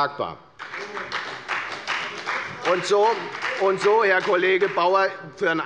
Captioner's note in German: Beifall bei der FDP